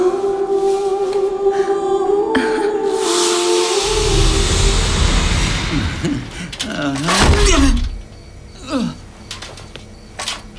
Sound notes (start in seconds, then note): 2.4 woman chuckles; 2.9 steam rumbling; 6.0 man chuckling; 6.6 man grunts; 7.0 ironing board clatters